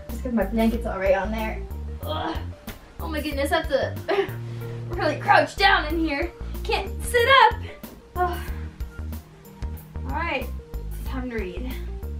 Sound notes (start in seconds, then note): 4.2 gasps; 8.1 exhales